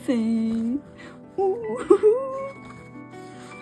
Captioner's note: laughing